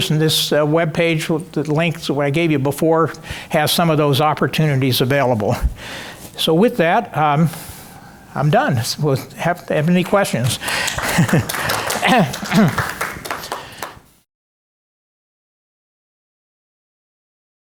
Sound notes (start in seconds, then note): 10.4 audience clapping